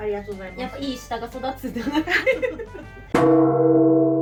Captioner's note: laughs